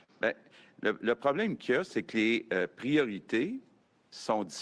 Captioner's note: speaks French